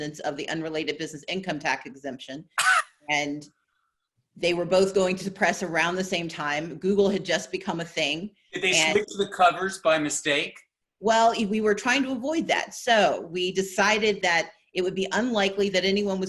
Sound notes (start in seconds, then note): 2.6 laughing